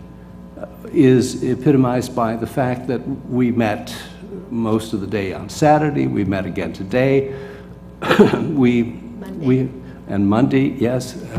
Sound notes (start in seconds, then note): 8.0 cough